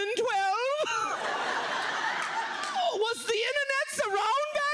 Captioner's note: audience laughs